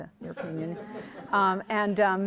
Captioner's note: audience laughing